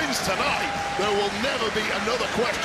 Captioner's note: audience cheering